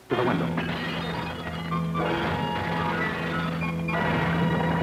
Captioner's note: explosion, glass breaking; threatening music